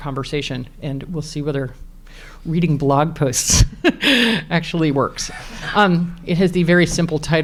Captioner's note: laughs